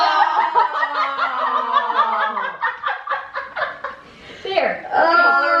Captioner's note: laughing